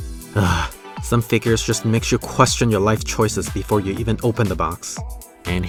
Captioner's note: sigh